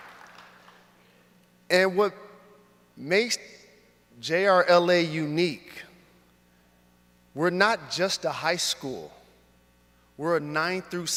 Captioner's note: applause